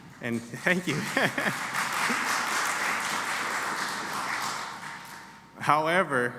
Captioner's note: applause